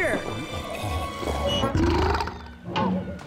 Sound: burps

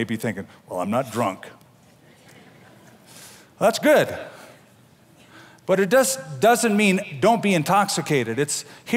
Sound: laughter

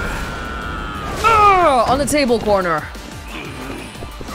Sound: exclaims

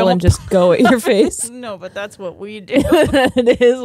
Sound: both laughing

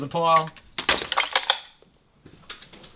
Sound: clatters and rattles

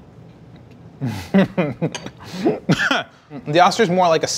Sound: laughing

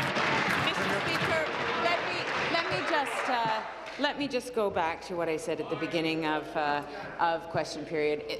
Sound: applause

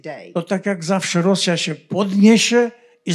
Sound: foreign language

